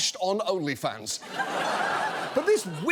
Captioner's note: audience laughs